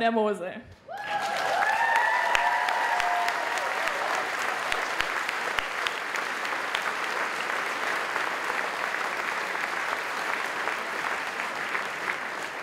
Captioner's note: applause